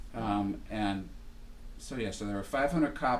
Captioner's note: voiceover